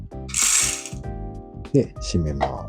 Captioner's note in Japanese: 豆を入れる音